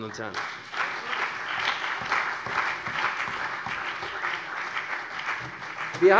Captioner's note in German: Beifall CDU und BÜNDNIS 90/DIE GRÜNEN